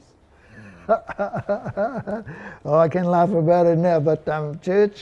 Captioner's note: laughs